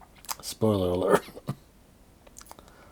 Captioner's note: coughing